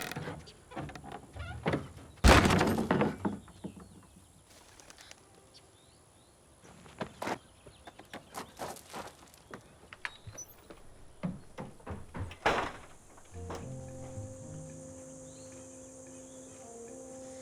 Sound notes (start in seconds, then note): 0.6 door bangs